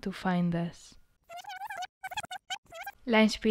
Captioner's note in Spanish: Sonido de rebobinar